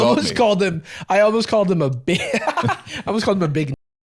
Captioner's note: laughs